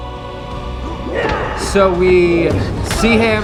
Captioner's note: man yells